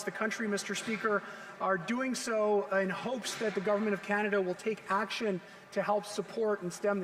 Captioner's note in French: voix de l'interprète